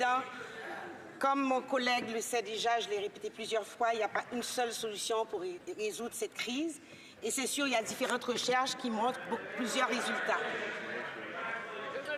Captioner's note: speaking French